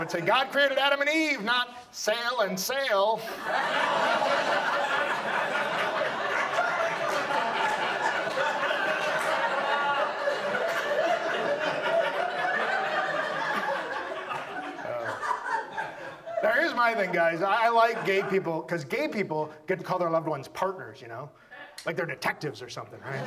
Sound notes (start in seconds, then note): 3.2 audience laughs